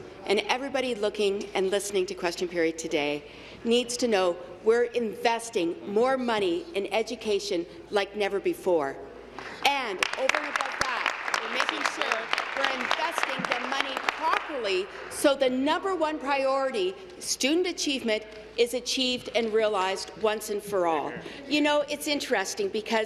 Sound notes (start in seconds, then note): 13.8 applause